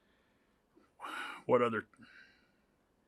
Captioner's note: sighs